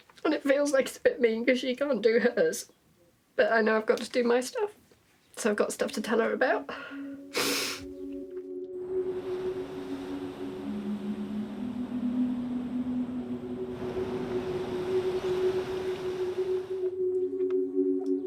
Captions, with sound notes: And it feels like it's a bit mean because she can't do hers. But I know I've got to do my stuff so I've got stuff to tell her about. [Breeze and wave sounds]